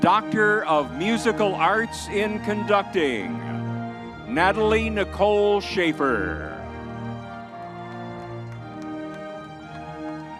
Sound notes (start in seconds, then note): 7.2 crowd cheering